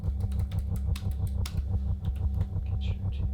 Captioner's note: typing sounds